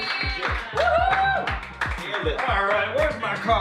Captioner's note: cheers, applause